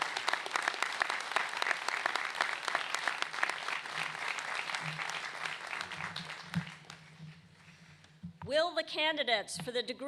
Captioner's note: applause